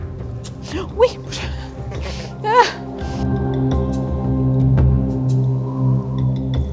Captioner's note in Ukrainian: сміх